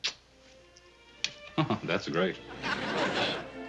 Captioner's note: chuckles